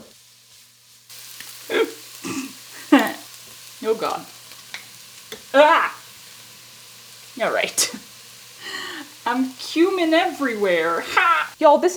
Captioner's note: gasp, snort, chuckle